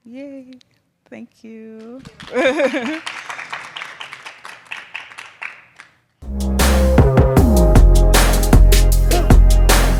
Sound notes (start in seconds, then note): 2.1 attendees applauding; 6.2 energetic music